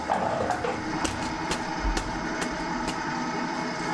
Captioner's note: bubbling; continuous whirring